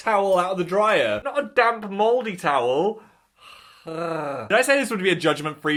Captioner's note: groans